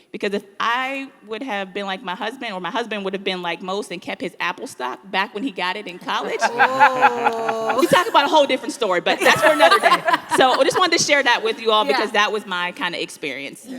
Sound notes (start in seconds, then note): 6.0 people laughing; 9.0 people laughing hysterically